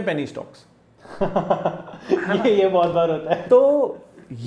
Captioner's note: laugh